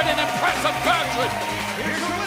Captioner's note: bell ringing